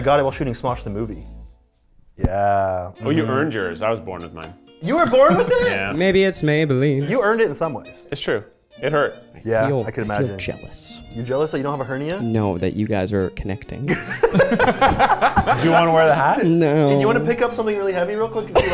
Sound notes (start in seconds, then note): 13.9 laughing